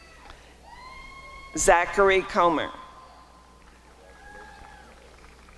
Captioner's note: applause and cheering